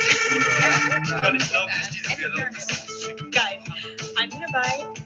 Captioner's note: people chattering